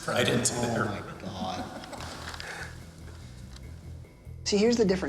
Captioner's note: laughing